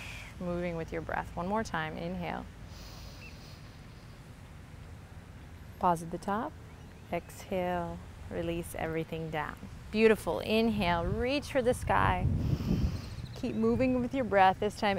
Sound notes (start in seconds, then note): 0.0 exhales; 2.6 inhales deeply